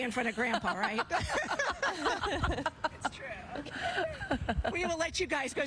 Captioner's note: laughter